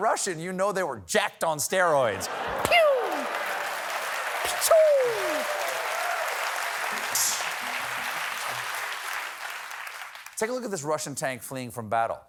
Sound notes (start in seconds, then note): 2.2 applause